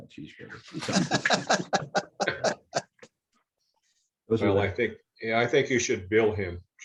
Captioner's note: laughter